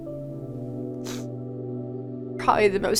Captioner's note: sniffles